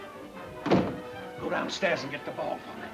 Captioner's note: gentle music; door thuds